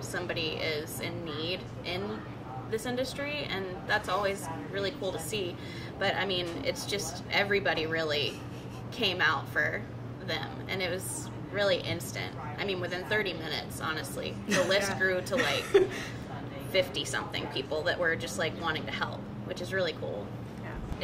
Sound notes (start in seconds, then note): 14.4 laugh